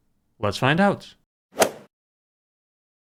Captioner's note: swoosh